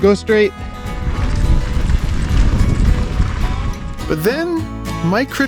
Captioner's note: bike scraping